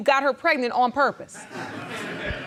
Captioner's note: audience chuckling